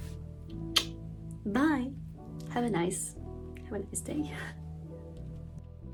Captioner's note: blowkiss